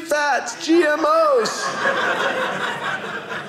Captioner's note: audience laughing